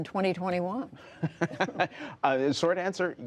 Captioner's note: laughter